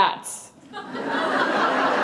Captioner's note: laughter